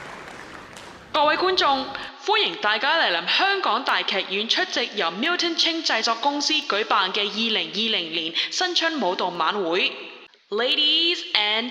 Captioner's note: in Cantonese